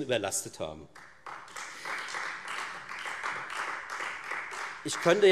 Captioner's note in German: Beifall Freie Demokraten